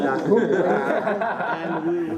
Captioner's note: laughing